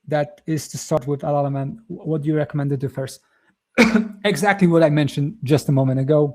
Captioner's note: coughs